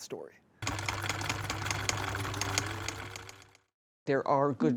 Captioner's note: sewing machine whirring